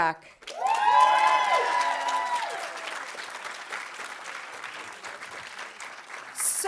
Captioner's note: audience applauding; audience cheering